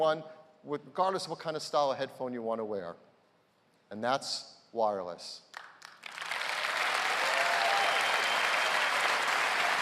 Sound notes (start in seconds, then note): 6.0 cheers and applause